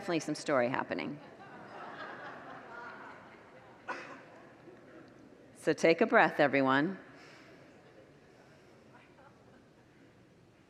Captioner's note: congregants laugh